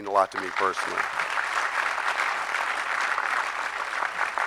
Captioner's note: audience clapping